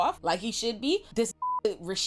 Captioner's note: beep